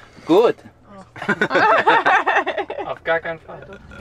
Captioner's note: laughter